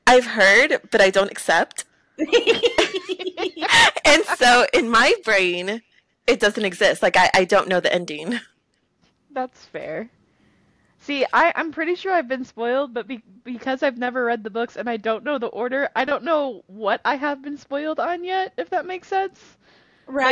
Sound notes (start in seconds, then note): 2.2 laughter